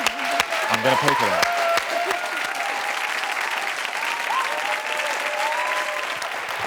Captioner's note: audience applauds